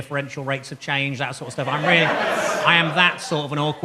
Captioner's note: audience laughs